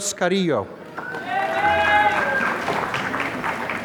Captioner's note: applause